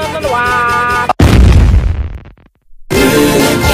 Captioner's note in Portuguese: explosão